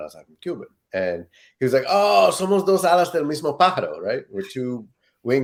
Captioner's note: speaking Spanish